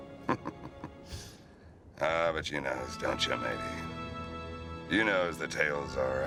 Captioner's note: chuckling